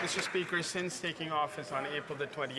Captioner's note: some Applause